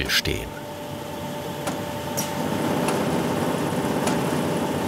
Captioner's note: whirring, rattling